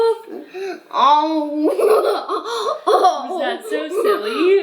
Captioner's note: laughing